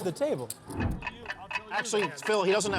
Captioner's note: clock ticking